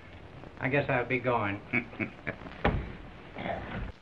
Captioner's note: chuckles